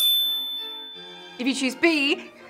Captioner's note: bell ringing